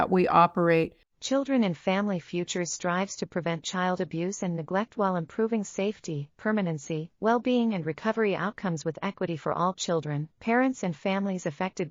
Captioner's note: audio Description being read